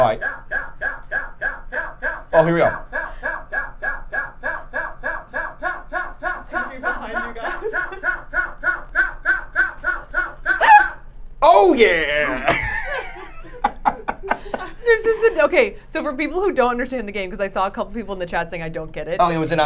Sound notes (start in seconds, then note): 9.5 laughing; 11.9 laughing